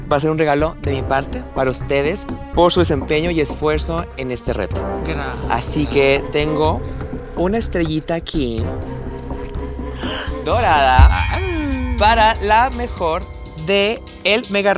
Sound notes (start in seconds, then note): 10.0 gay gasp